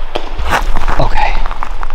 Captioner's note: water cracks